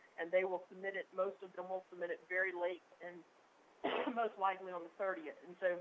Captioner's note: coughs